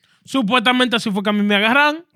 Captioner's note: speaking Spanish